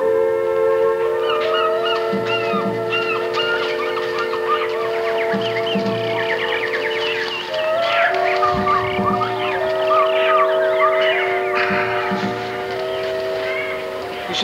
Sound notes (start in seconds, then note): 0.6 birds squawking; 0.6 suspenseful music; 11.5 Anton sighs